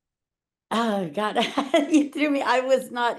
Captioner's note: chuckling while talking